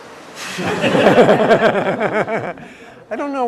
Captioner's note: laugh